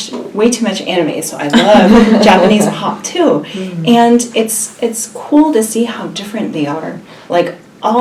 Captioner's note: laughs